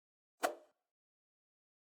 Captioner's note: swoosh